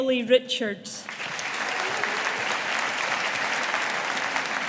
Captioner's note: audience applauding